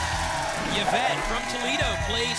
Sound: audience cheers

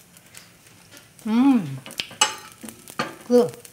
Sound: yummy exclamation

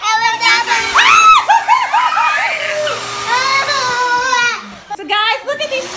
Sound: screaming; vacuum rumbling

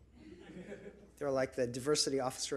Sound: audience laughs

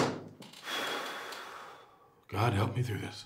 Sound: Rick sighs

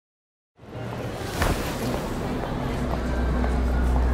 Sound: shoppers chatter

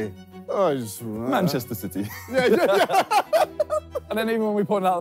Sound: laughs

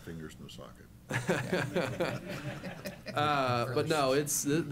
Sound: laughter

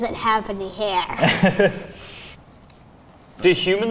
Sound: laughs

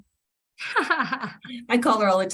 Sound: laughing

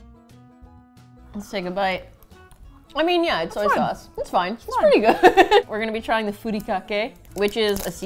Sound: laughing

